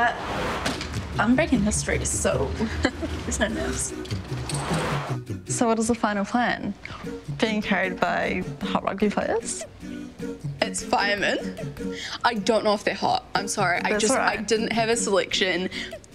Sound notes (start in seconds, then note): 2.2 chuckles; 4.6 logo swooshes